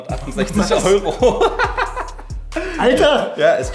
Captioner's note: both are laughing